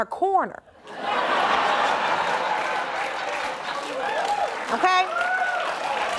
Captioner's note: audience laughing